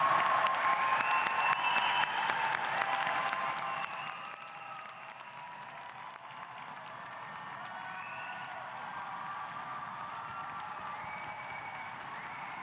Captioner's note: applause